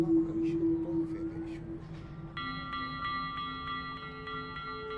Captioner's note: Sonny continues chattering